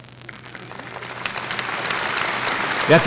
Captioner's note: applause